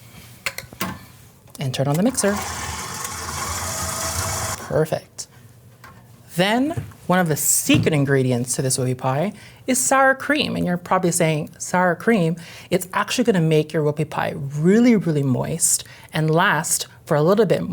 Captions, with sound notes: And turn on the mixer. (mixer whirs) Perfect. Then, one of the secret ingredients to this whoopie pie is sour cream, and you're probably saying, "Sour cream?" It's actually gonna make your whoopie pie really, really moist and last for a little bit